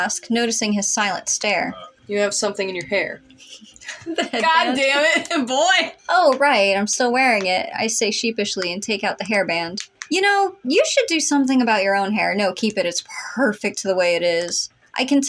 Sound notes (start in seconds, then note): 3.4 both Snicker